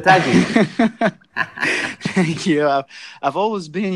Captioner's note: laughs